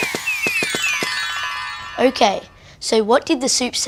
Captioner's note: chimes